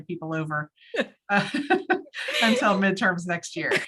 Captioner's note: both laugh